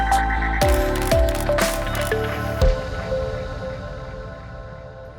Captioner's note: new age pop music; camera flashing noises